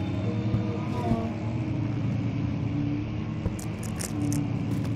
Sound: ambient buzzing; scratching in the walls and faint sounds of a piano

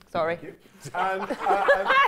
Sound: all laughing

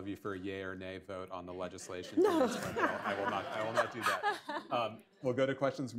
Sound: laughter

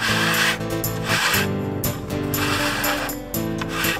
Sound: scraping Noise

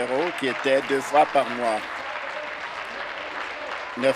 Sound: applause

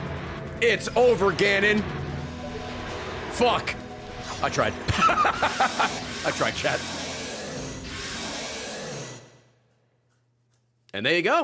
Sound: laughs

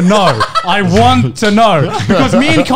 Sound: men laughing

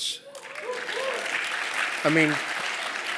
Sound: applause

